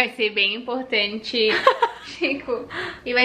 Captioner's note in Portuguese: Risos